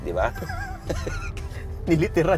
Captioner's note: laughs